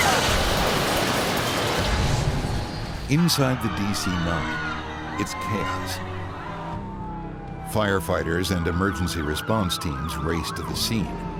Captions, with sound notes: [SCREAM] [SCREAMING] Inside the DC-9, it's chaos. [SIRENS] Firefighters and emergency response teams raced to the scene.